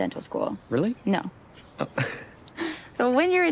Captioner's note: both chuckle